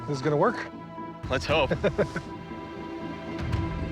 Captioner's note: chuckles